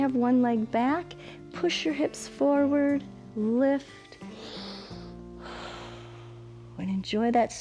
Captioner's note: inhales and exhales